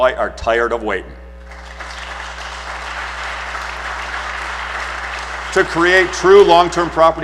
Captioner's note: applause